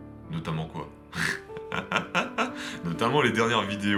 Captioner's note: laughs